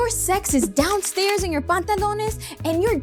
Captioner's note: speaks foreign language